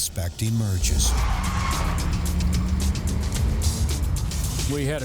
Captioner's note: tires squealing